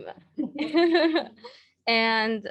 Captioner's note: laughs